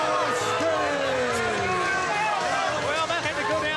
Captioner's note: crowd chatter